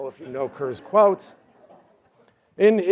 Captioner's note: laughter